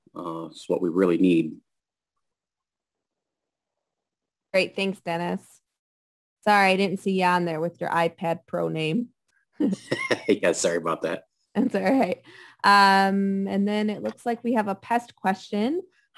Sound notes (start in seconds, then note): 9.7 laughs